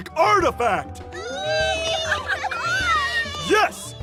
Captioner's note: excited child noises